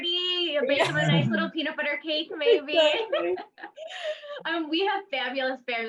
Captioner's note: laughs